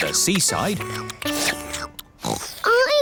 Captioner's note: oinks; slurping